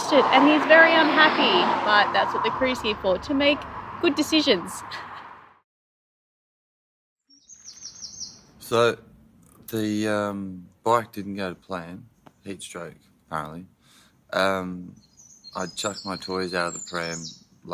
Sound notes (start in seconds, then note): 4.9 chuckles